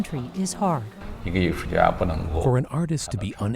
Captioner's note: speaking native language